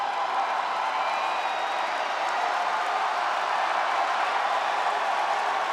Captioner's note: audience continues cheering